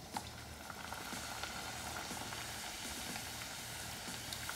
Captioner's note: oil sizzles